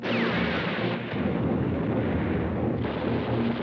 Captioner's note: bombs exploding